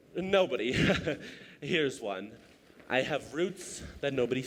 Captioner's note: nervous laugh